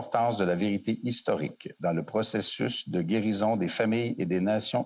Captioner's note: speaking French